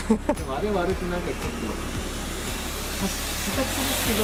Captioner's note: laughs